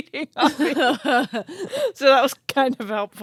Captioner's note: both laugh